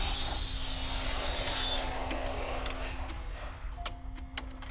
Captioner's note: sudden ominous music; VCR whirring; videotape squeaking; gentle melodic music